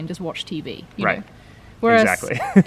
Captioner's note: laughs